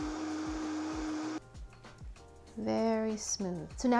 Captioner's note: blender buzzing